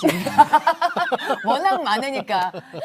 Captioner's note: laughter